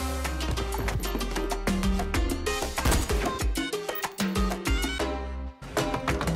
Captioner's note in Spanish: Disparos